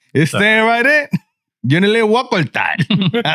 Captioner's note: speaking In Foreign Language